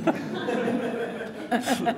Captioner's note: laughter